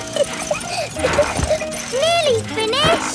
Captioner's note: peppa laughing